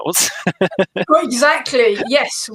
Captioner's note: laughing